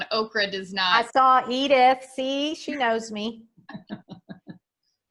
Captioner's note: laughs